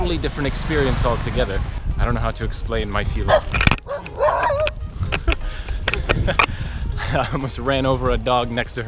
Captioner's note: dog barks